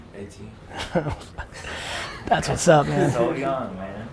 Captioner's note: laughs